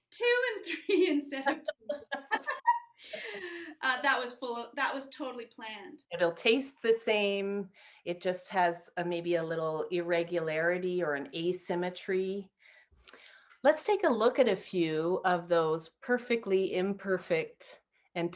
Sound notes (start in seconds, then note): 1.4 both laugh